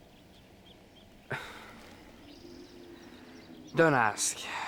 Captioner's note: Lex sighs